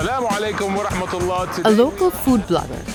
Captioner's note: speaks in foreign language